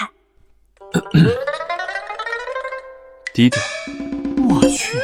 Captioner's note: cough